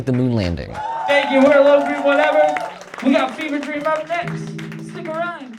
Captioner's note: applause